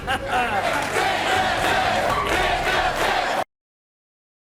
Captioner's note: audience chanting